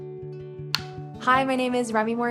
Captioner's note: gentle music; clapperboard claps